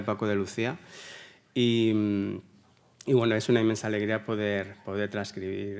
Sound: continues in Spanish

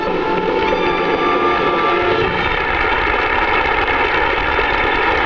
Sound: audience clapping

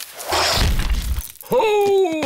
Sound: thuds

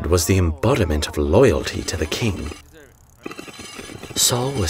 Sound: whetstone grinding

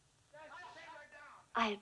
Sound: men arguing

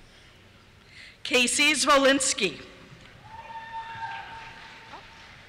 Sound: cheers

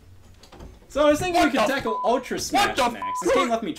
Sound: door opening; beep

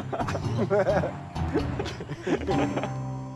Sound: Sam and Kingston laugh

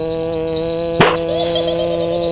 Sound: vw motor and bells jingling; slam; giggling

